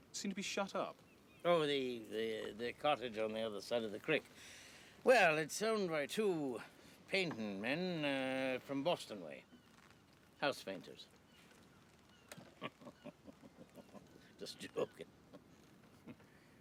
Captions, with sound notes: Seemed to be shut up. Oh, the-- the cottage on the other side of the crick. Well, it's owned by two painting men, uh, from Boston way. House painters. [chuckling] Just joking.